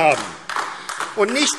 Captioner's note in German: Beifall AfD